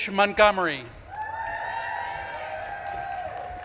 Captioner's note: audience claps and cheers